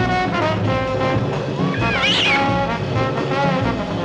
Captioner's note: cat Screeches